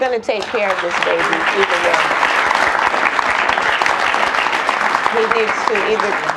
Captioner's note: audience applauds